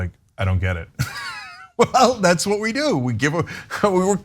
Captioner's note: laugh